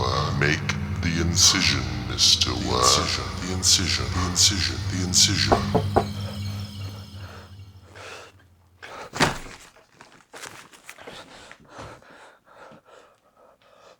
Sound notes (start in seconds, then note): 5.0 knocking; 5.4 ominous music fades